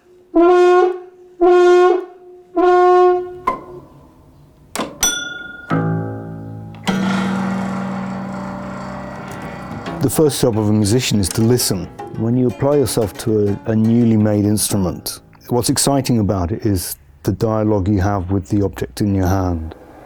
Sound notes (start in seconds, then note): 2.5 plucking and dinging; 6.8 whirring